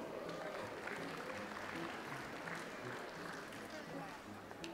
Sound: audience applauds

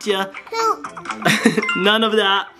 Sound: laughs

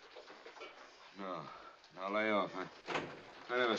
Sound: door Opens

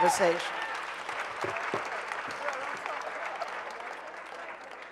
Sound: audience applauding

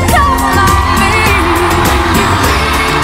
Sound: audience cheers and applauds

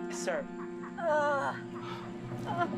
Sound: Cooper groans

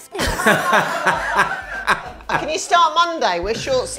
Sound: laughs

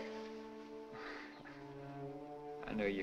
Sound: chuckles

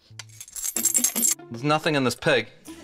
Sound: jingling

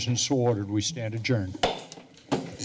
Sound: gavel tap

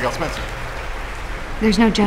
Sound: audience applauding

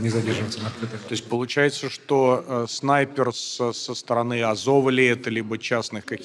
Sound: Ukrainian

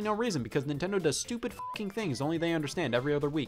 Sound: beep

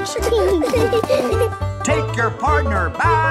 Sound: laughing

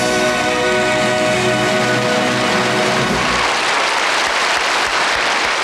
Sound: audience clapping

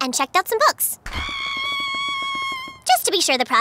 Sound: screaming

